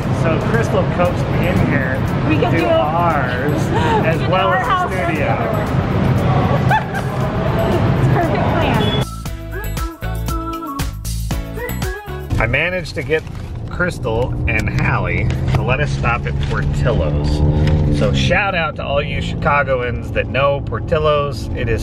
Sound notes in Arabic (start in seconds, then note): 6.3 يضحك; 8.7 موسيقى مبهجة